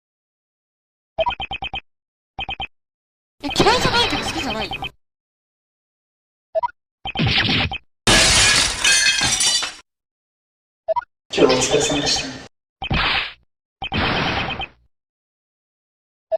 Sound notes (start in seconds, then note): 8.0 clash